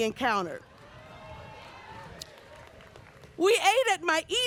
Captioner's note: audience cheers and applauds